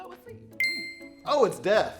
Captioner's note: ding